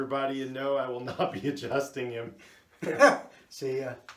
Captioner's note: laughs